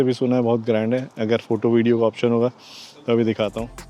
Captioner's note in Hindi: नाक से की जाने वाली आवाज़